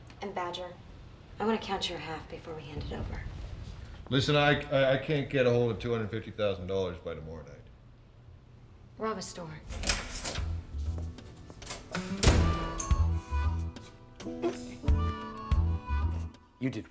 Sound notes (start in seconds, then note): 11.6 door slams